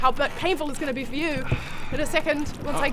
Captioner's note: sigh